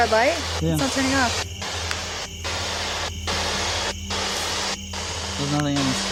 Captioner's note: static signaling